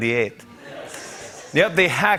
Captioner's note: laughter